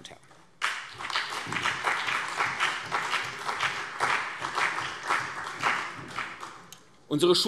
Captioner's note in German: Beifall CDU und BÜNDNIS 90/DIE GRÜNEN